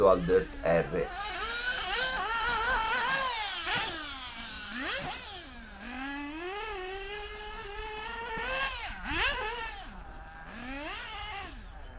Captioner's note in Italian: engine sound